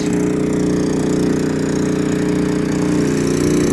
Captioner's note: motor runs